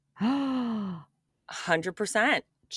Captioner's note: gasps